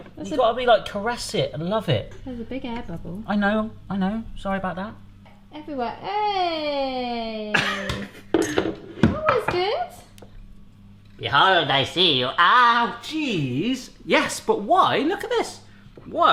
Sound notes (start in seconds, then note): 6.4 laughs